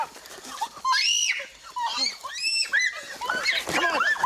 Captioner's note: shrieking